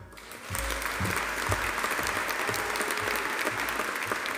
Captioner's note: audience applauding